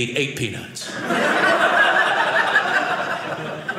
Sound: audience laughing

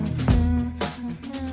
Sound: humming

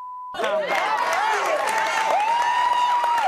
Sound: applauding

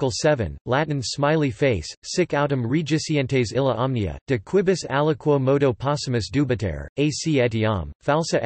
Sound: Latin

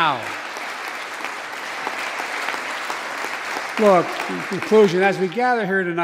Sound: applause

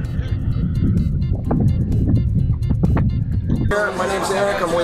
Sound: wind blowing

